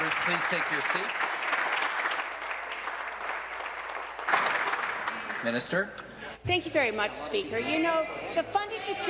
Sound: applause

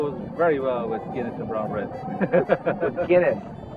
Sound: laughs

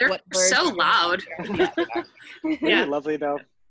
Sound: laughs

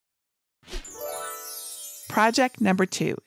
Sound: magical chiming

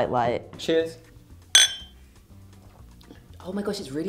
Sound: glass clinking

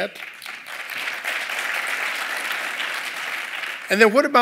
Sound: applause

